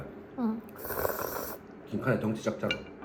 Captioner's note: slurp